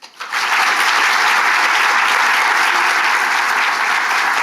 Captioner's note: audience applauding